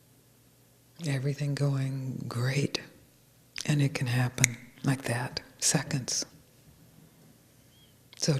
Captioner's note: snaps fingers